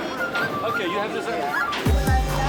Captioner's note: indistinct chatter